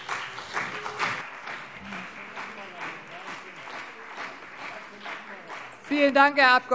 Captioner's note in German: Beifall CDU und BÜNDNIS 90/DIE GRÜNEN